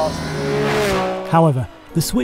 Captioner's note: car engine revving